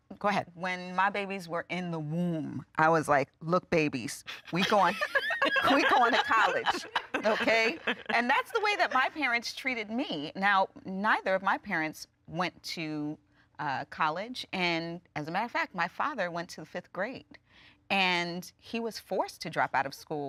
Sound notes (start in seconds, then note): 7.5 everyone laughing